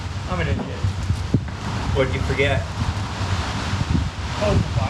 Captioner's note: engine shuts off